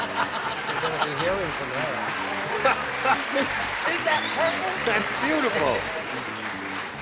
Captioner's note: laughter